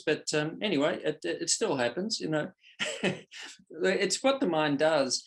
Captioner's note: chuckles softly